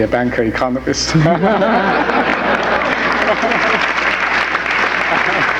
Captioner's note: audience applauding